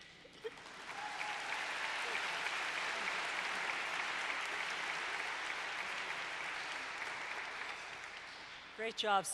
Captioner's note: applause